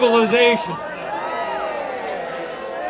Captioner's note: audience cheering